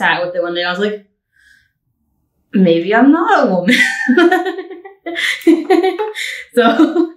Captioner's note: laughing